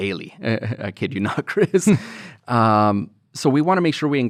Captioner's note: chuckles